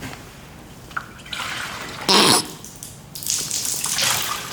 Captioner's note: splash